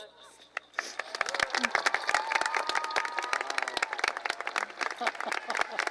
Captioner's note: applause